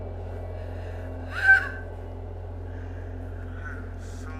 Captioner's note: frightening music; girl screams